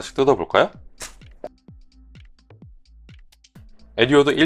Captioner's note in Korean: 비닐 봉투 뜯는중